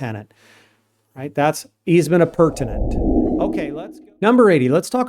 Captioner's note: whooshing